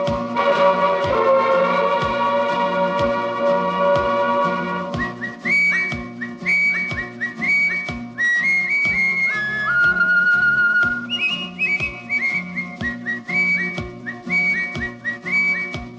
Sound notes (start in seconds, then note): 4.9 whistles